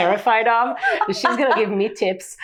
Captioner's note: laughing